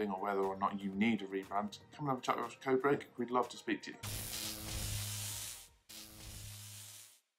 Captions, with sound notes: or whether or not you need to rebrand, come and have a chat with us at Codebreak, we'd love to speak to you. (electric buzzes)